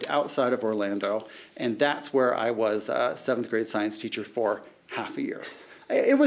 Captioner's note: laughing